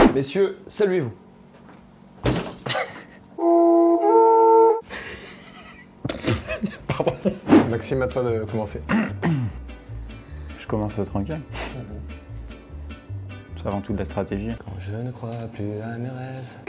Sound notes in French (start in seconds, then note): 2.2 Bang; 2.6 rires discrets; 4.8 rires discrets; 4.9 rire